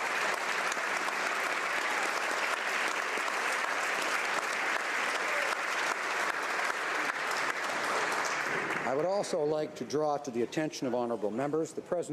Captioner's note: applause